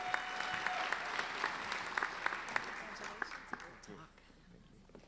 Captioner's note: applauding